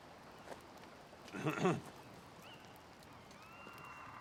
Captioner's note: clears throat